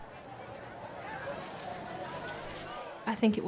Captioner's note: people chattering